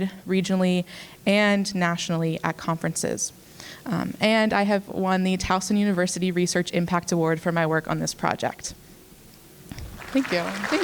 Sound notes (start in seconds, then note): 9.8 applause